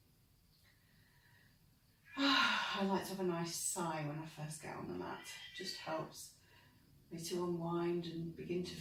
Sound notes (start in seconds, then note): 2.1 sighs out